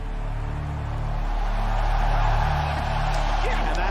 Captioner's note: crowd cheering